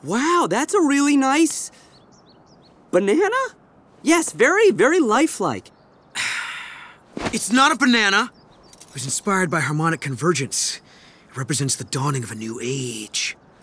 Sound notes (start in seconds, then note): none